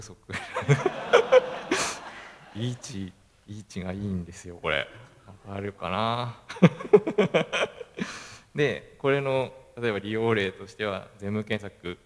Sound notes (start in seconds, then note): 0.3 laugh; 6.4 laugh